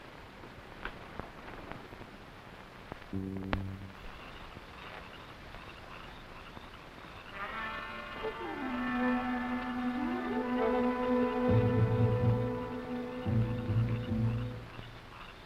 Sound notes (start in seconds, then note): 4.4 frogs croaking; 4.4 tense music